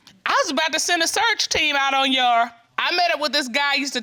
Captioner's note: none